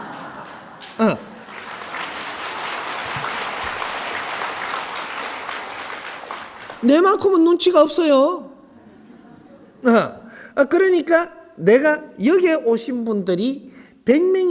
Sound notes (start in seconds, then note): 3.2 audience Applauds